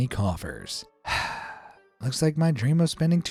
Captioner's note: sighs